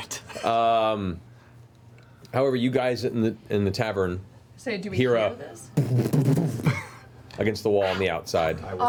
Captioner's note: flurry of blows